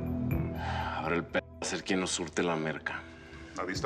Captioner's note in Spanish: exhala